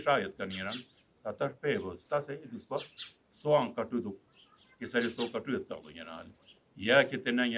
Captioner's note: expressing dismay